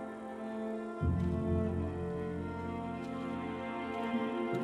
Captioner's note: grass crunching